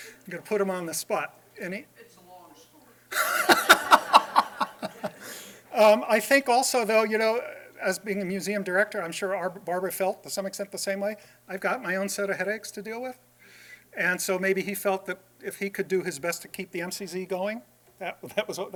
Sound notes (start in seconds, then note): 3.1 laughter